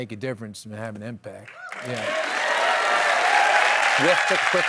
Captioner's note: applause